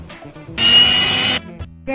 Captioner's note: mixture/grinder sound